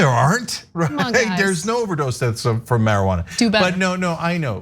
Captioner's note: laugh